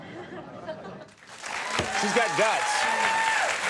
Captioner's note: audience applauding